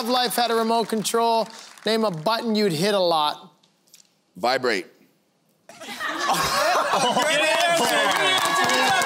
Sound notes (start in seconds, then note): 5.7 laughter